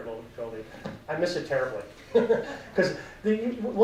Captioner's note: laughs